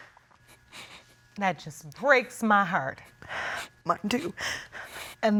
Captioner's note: tearfully